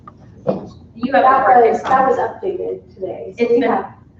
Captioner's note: overlapping chatter